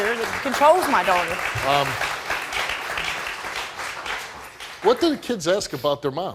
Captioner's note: crowd applauding